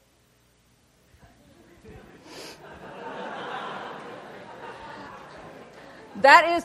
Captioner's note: laughter